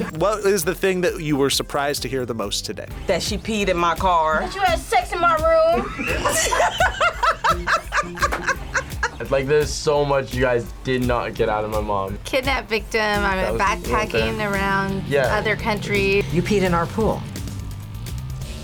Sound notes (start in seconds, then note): 5.5 both laugh